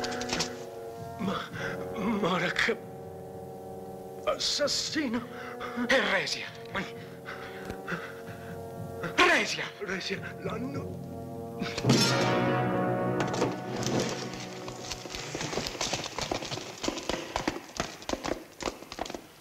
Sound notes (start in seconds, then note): 8.7 yelling, steel clanging; 12.7 dramatic music